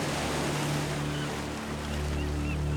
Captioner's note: seagulls